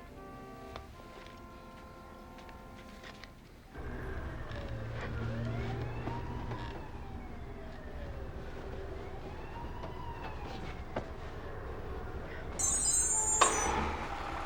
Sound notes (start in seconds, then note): 4.0 siren wails in distance